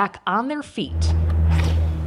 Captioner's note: atmosphere humming; door swishing